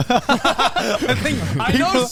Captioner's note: men laugh